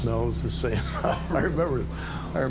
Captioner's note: laughs